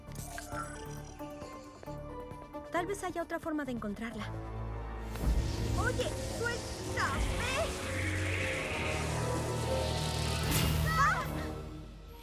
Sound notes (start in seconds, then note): 4.8 whoosh; 10.7 yell